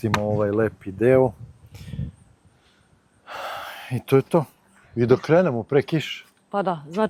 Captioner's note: sigh